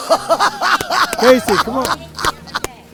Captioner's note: clapping